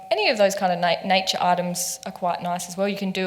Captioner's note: none